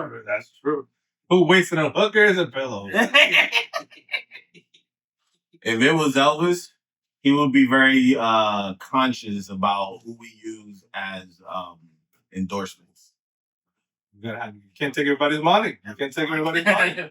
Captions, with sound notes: That's true. Who wasted a hook or is a pillow? (Laughing) If it was Elvis, he would be very conscious about who we use as endorsements. Can't take everybody's money. You can't take everybody's money.